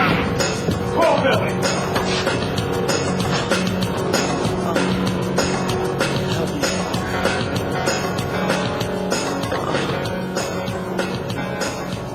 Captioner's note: groans